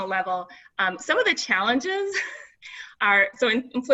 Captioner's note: laughs